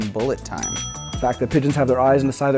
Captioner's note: ding